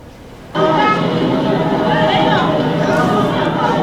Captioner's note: crowds talking